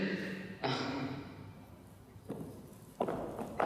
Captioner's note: grunt of exasperation